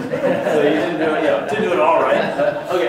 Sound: laughter; voiceover

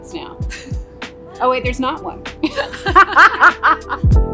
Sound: laughs

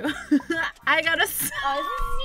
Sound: laughs

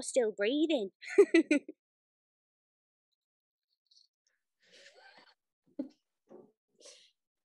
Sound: laughs. walks away and giggles

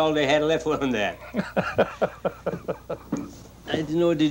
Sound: man laughing

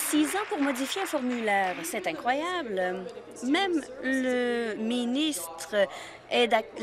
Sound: applause

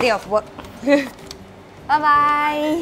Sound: laughs

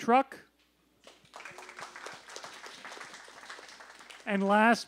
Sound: applause

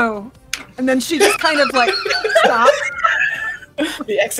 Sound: laughter

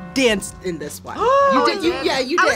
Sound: gasps

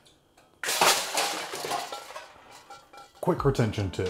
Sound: can clatters

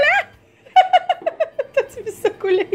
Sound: laugh

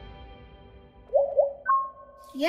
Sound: beeping

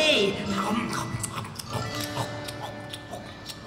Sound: chomping Noises

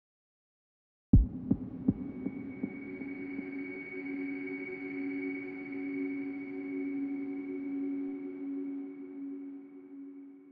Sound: sound of tension

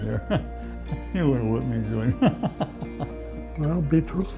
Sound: laughs

